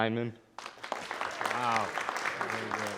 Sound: audience applauding

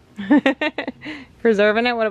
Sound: giggling

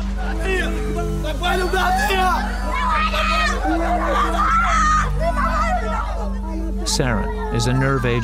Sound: shouting

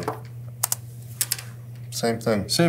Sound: keyboard clicking

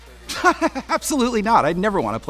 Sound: laughing

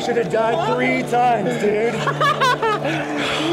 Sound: laughs

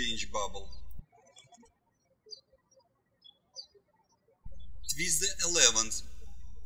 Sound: birds chirping

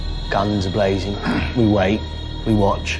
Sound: clears throat

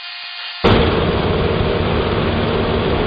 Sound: hot air balloon gas burner

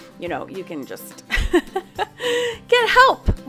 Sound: laughs

